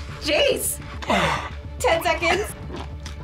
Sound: sighs

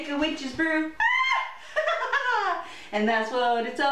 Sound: witch cackle

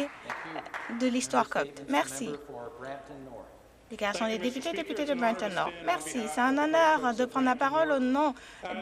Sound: some Applause

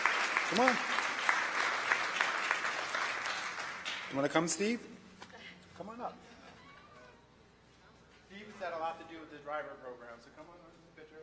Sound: applause

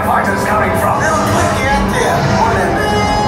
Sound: Nien Nunb in native language

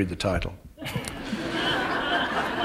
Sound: laughter

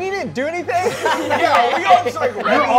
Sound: all laughing

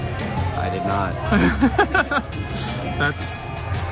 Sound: laughs

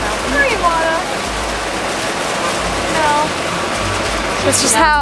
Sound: water running

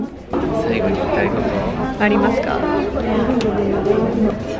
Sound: foreign language

